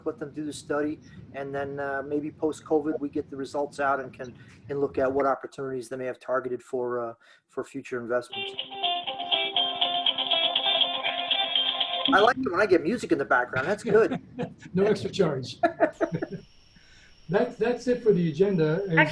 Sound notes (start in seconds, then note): 8.3 cell phone starts ringing; 13.4 laughs